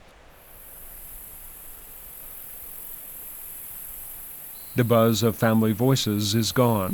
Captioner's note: wind